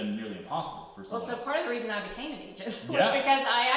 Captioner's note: laughs